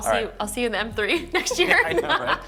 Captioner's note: laughs